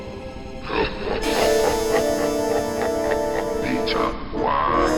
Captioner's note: stock laugh sound effect